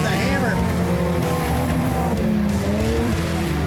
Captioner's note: cars speeding